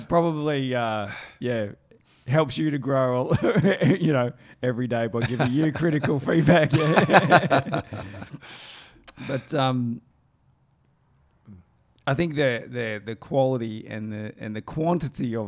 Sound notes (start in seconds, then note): 3.3 chuckles; 5.2 chuckling